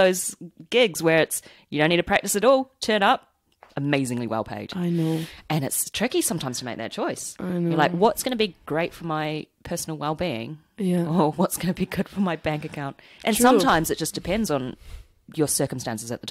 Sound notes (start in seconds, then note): none